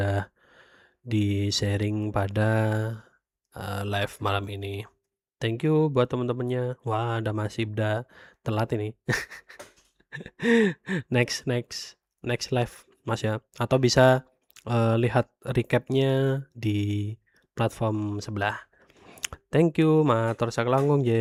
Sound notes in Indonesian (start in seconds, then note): 9.1 tertawa